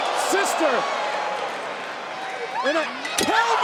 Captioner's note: crowd cheering; Roxanne yelling